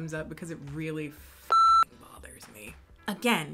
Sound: beep

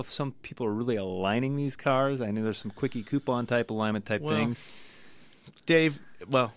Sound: laughs

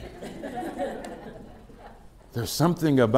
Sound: laughter

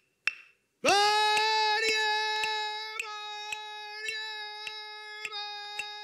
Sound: chanting in Ngunnawal

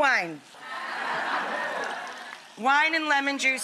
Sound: audience laughs

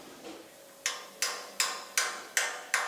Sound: metal knocking

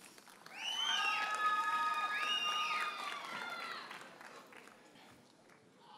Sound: audience cheers and applauds

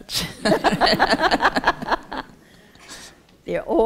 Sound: laughter

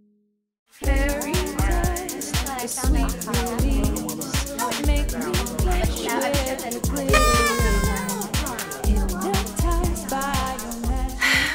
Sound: party Chatter

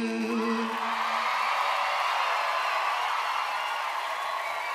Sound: audience cheers

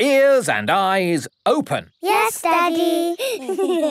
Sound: giggling

